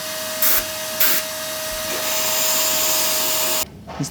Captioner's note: drill whirring